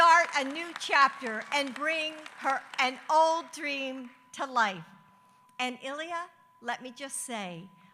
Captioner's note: applause